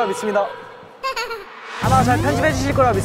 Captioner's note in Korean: 헛웃음